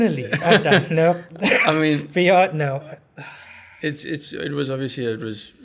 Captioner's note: laugh